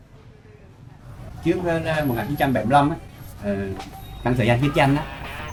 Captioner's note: speaking foreign language